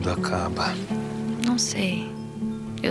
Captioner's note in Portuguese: em off